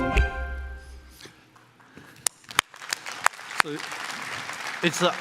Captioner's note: applause